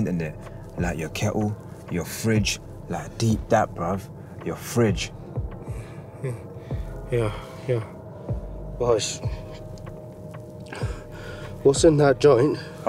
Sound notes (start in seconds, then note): 5.0 breathing heavily